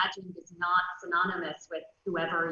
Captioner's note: none